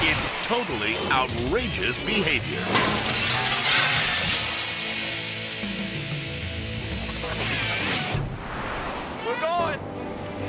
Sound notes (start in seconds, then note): 2.6 glass shatters; 4.2 upbeat dramatic music